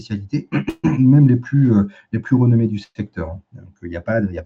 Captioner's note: raclement de gorge